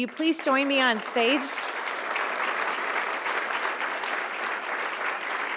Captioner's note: audience applauding